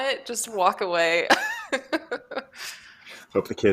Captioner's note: laughs